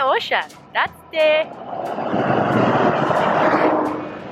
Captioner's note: vehicle roaring